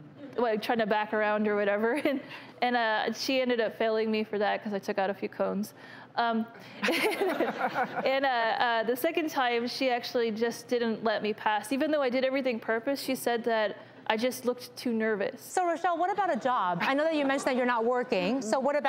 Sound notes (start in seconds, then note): 6.8 laughter